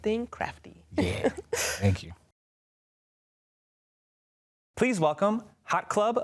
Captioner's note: laughs